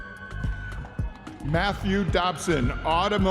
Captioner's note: audience members cheering